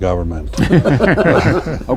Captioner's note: laughter